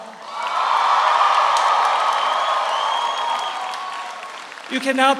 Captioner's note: audience applauds; audience cheers